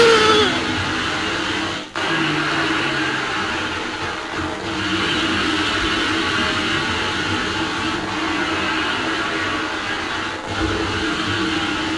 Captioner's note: grinder-like noise